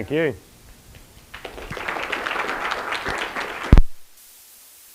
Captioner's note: applause